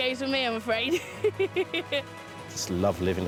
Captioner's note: laughs